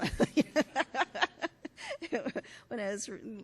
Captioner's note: laughs